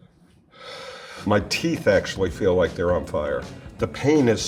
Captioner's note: sighs